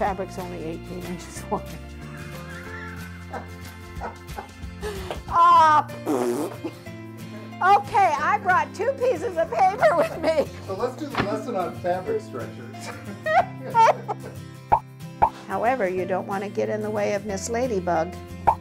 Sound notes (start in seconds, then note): 5.8 bronx cheer